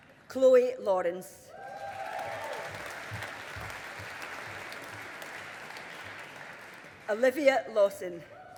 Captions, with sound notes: Chloe Lawrence. (AUDIENCE APPLAUDING) Olivia Lawson.